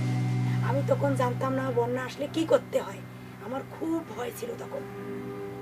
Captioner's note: foreign language